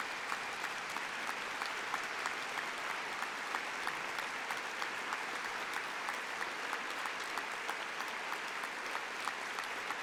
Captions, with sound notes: for Education and Skills to wind up the debate and address conference. [Applause]